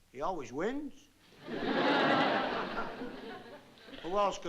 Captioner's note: laughter